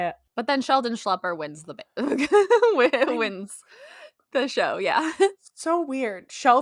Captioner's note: laughter